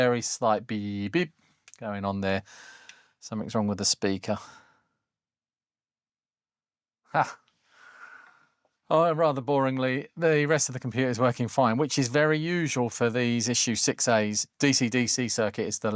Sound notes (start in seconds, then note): 3.4 silence